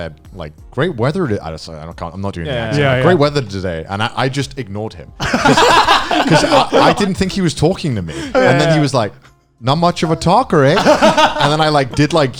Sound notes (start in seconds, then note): 5.2 laughing